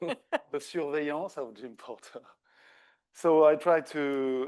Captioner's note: everybody laughs; speaking French